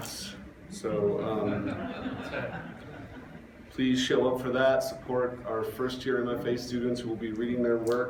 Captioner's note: laughter